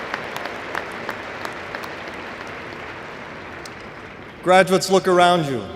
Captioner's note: applause